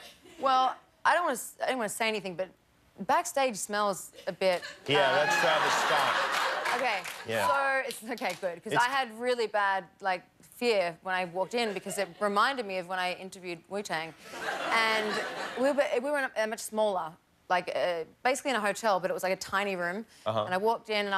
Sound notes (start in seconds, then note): 4.5 laughter